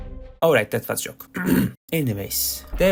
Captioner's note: clears throat